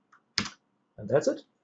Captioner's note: keyboard clicks